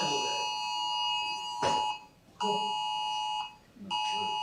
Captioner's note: bell rings